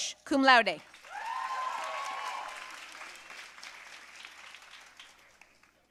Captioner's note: audience cheering and applauding